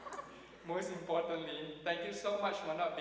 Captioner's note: audience laughing